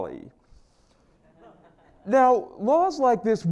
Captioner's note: laugh